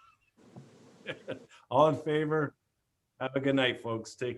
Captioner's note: laughs